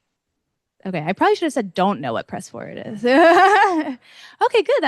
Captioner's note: laughs